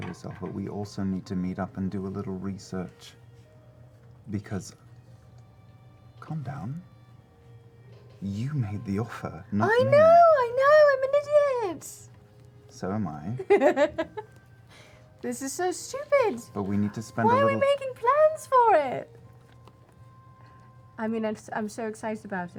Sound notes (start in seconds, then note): 13.4 laughs